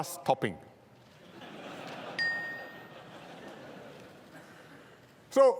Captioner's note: laughter